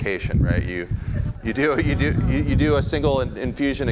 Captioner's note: audience laughs